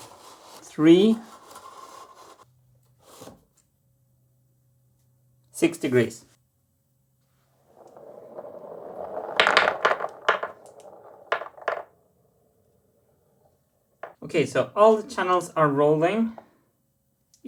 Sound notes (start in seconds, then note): 7.6 marbles rolling then clicking